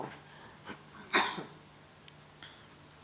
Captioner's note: coughs